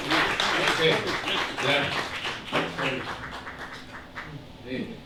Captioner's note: applause